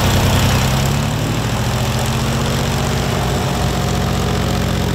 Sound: wind fan blows

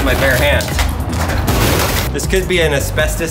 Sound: safe thudding

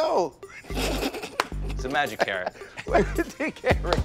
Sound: snickers

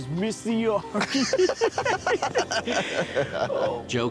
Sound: both laughing

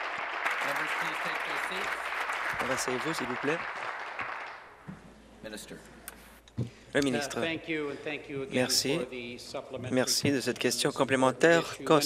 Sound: applause

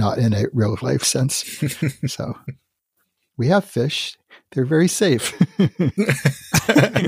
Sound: laughs

